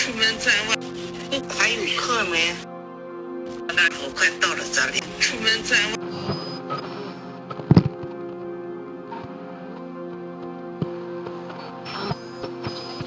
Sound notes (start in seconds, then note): 0.1 woman on radio speaking in foreign language; 6.4 radio whooshing